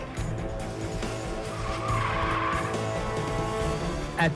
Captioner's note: tires squealing